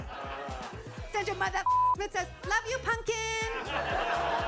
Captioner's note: beep